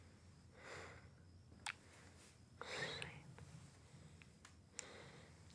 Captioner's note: Chris sighs